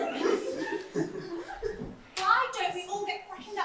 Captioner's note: audience laughter